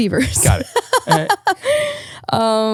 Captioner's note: laughing